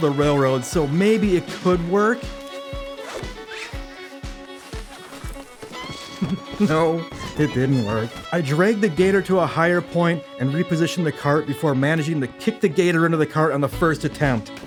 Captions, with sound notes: the railroad so maybe it could work? [chuckles] No, it didn't work. I dragged the gator to a higher point and repositioned the cart before managing to kick the gator into the cart on the first attempt.